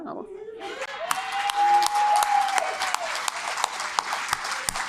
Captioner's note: audience cheering and clapping